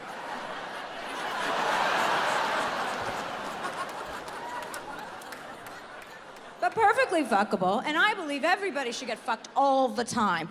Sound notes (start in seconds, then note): 0.0 audience laughs